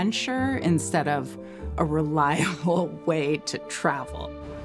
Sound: chuckling

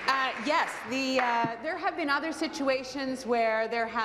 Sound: applause

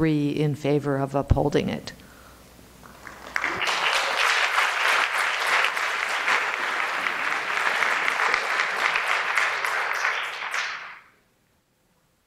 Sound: applause

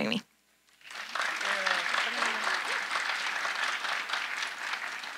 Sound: audience applauding

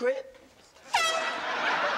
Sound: foghorn blowing

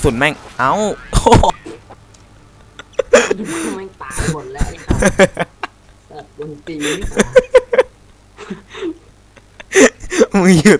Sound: laughing

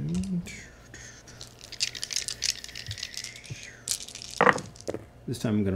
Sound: dice rattle and thud

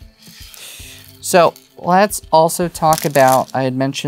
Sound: stones clattering

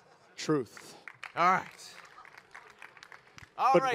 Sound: audience applaud

